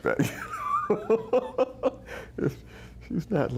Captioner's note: laughing